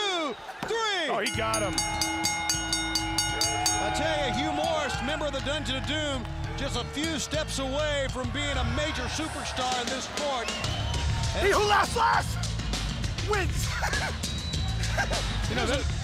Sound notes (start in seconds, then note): 1.2 bell ringing; 12.7 crowd chatter